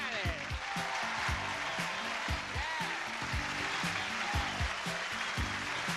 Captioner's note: audience applause